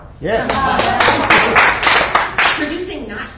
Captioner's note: applause and "yes" from crowd